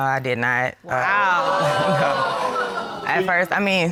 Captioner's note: audience gasps